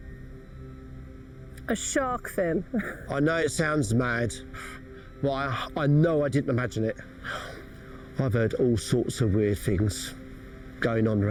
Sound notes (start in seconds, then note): 2.6 laughs